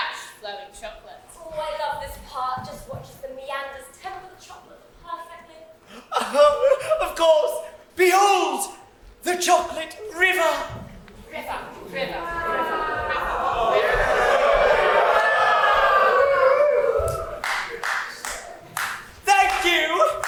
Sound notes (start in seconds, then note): 12.1 a cacophony of "OOH"s and "WOW"s